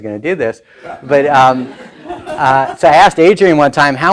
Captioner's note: laughing